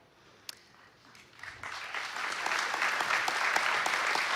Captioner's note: applause